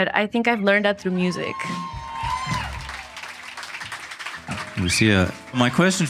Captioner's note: audience applauding and cheering